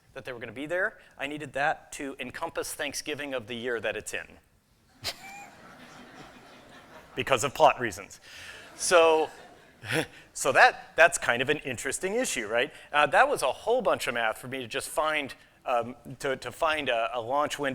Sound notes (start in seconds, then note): 5.0 laughter